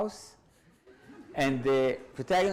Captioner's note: audience laughs